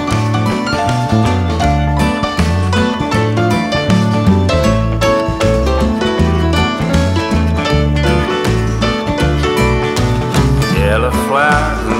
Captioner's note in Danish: Bifald